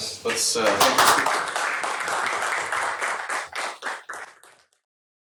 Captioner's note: applause